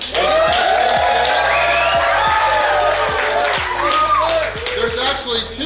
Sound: crowd Cheering

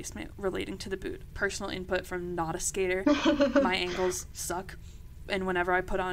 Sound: laughter ensues

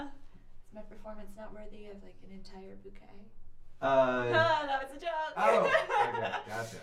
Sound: laughs

